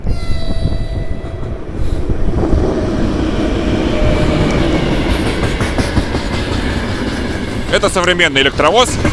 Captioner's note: train noise and 50 hertz rumble from the contact network in the microphone